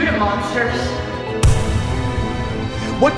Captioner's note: gunshot